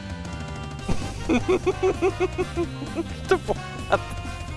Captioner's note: laughing